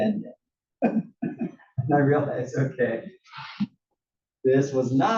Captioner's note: laugh